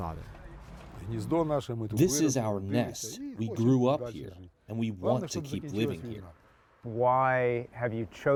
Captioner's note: through translator